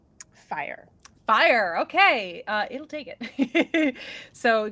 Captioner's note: chuckles